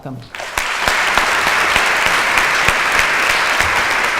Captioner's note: applause